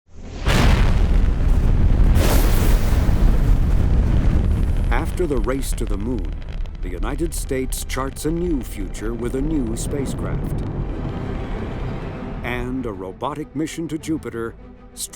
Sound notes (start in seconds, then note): 0.4 rocket blasting